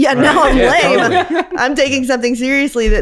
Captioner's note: everyone laughs